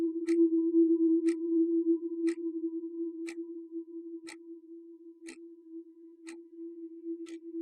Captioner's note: eerie gentle music continues; clock ticking continues